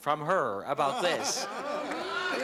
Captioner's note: laughter